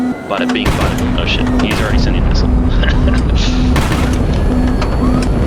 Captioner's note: laughs